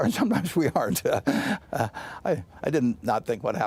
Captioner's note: laughter